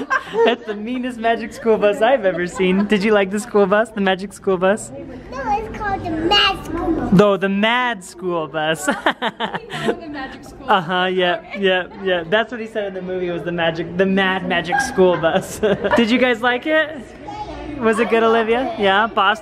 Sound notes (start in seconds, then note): 8.9 laughs